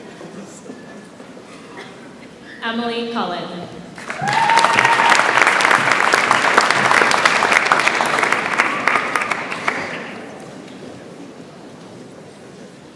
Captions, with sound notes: Emily Cullen. (audience applauds)